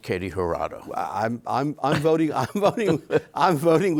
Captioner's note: chuckles